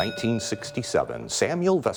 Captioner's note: bell ringing